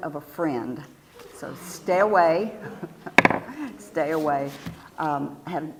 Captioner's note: laugh